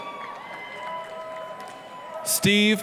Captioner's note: applause, cheering